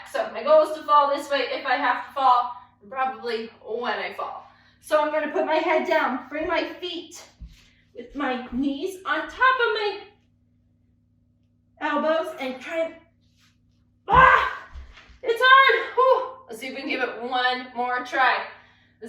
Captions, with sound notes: So my goal is to fall this way if I have fall and probably, when I fall. So I'm gonna put my head down, free my feet with my knees on top of my elbows and try, (groans) it's hard, whew! Let's see if we can give it one more try.